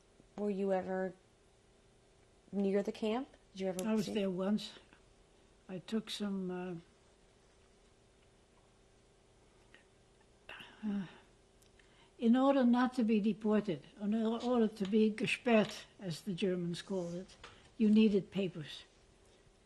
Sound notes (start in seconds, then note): 7.9 pauses for 6 seconds; 15.2 german